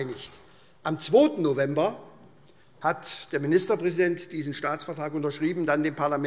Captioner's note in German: none